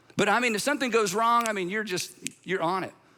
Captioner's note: snaps fingers